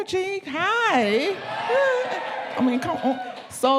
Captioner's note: audience cheering